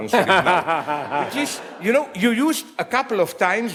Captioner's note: audience laughs